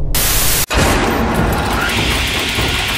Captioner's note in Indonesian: suara gerigi pisau berputar